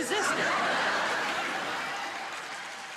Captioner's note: audience laughing